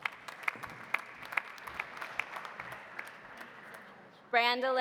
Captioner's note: audience applauding